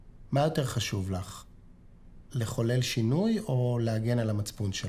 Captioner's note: speaking foreign language